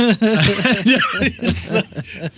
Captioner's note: laughing